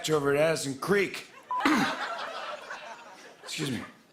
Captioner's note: coughs